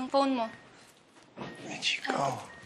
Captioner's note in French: door opens, closes